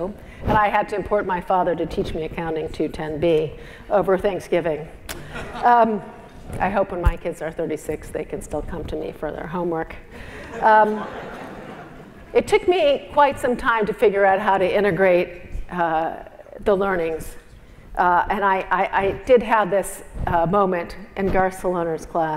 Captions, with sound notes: And I had to import my father to teach me Accounting 210b over Thanksgiving. I hope when my kids are 36, they could still come to me for their homework. >> [LAUGH] >> It took me quite sometime to figure out how to integrate the learnings and I did have this moment in class.